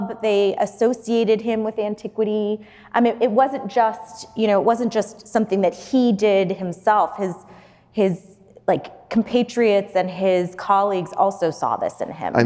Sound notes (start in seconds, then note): none